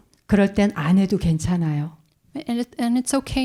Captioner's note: speaking in Korean